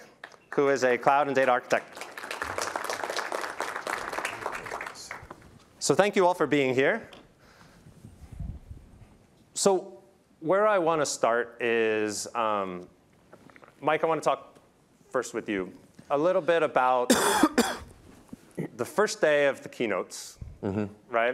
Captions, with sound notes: who is a Cloud and Data architect. (applause) So thank you all for being here. So where I want to start is Mike, I want to talk first with you a little bit about the first day of the keynotes.